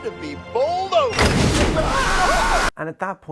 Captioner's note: sploosh